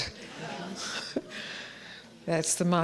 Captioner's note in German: Gelächter